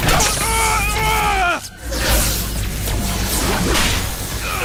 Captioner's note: crying out